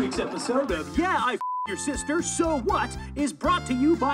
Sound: beep

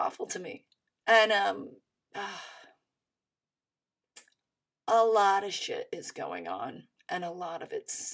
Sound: sighs

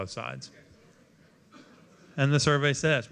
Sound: audience muttering

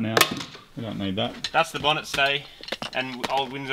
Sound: clattering; clatters

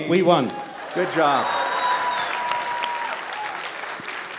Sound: applause

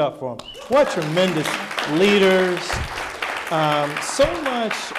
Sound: audience applauding

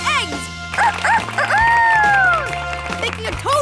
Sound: crowing like a rooster

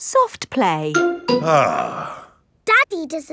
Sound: sighs

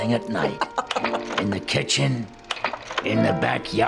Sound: laughs

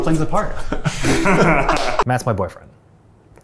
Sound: all laughing

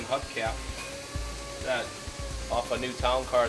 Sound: machine whirs

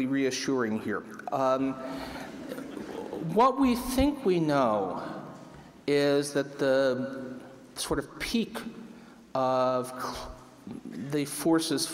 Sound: laughter

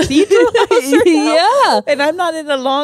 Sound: laugh

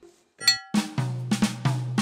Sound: bell dings; upbeat jazz music

